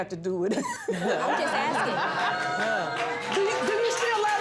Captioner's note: all laughing